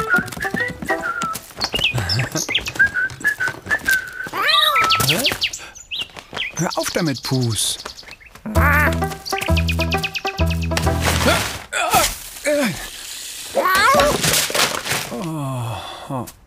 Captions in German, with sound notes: * Zwitschern * Hör auf damit. Hö, ah! * Mauzen * (seufzt) Oh.